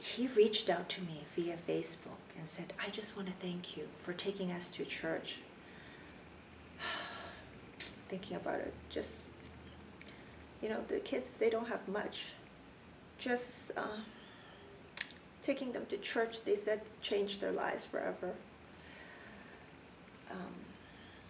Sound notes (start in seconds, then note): 6.2 sighs and clicks tongue; 15.0 clicks tongue